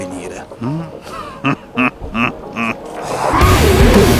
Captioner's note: evil laugh